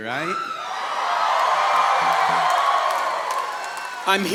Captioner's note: audience cheering